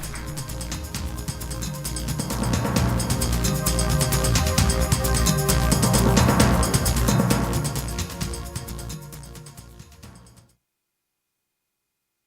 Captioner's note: applause